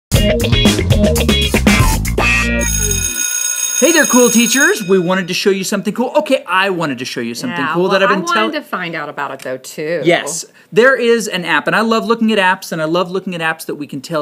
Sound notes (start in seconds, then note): 0.1 funky music; 2.5 bell rings